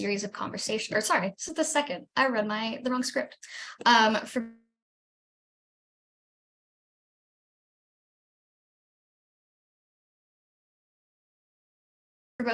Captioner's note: silence while video is frozen